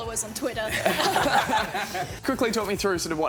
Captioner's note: laughter